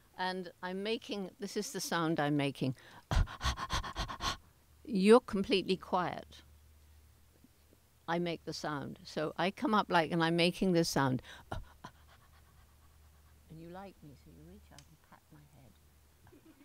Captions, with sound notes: and this is the sound I'm making. (panting) You're completely quiet. I make the sound, so I come up and I'm making this sound. (soft panting) And you like me so you reach out, and pat my head.